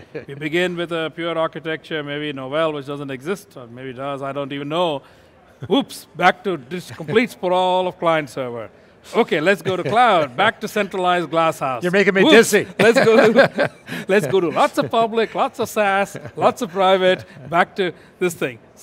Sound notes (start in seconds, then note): 12.3 laughing